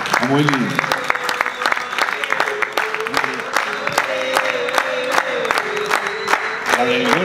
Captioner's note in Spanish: Público canta: " "